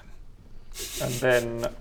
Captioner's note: laughs roguishly